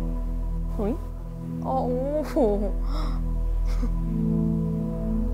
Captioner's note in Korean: 웃음